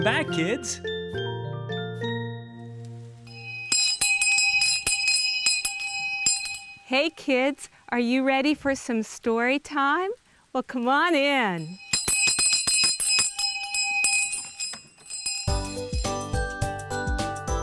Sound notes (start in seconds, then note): 3.2 bell ringing; 13.1 bell ringing